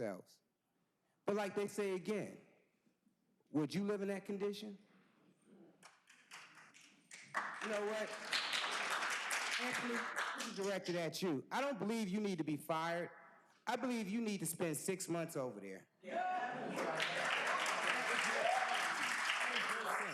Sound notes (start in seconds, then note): 10.0 applause